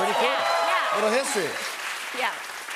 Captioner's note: cheers and applause